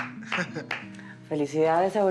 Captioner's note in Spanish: Palmadas